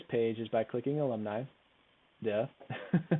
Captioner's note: chuckles